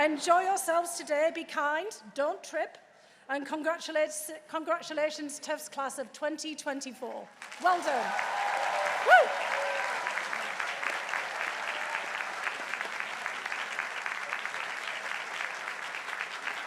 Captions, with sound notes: Enjoy yourselves today, be kind, don't trip, and congratulations, Tufts Class of 2024. Well done. (crowd applauding) Woo!